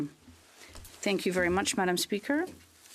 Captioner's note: speaking French